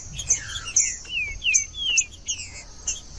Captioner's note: trinca ferro cantando